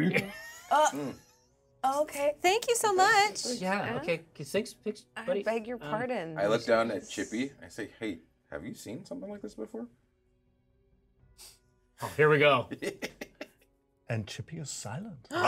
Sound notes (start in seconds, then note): 0.1 speaker laughs; 12.7 speaker laughs